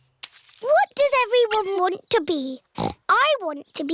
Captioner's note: snorts